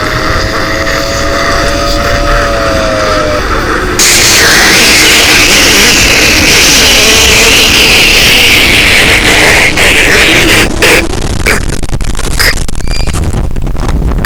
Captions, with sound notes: i have chosen dis house to go to hevan bye *fart* MY EARS AAAAAAAAAAAAAAAAAAAAAAAAAAAAAAAAAAAAAAAAAA